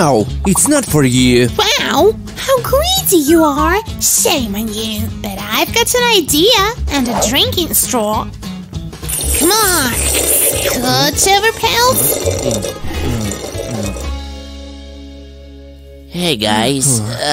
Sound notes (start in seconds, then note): 9.0 sounds of drinking through a straw; 15.5 indignant hum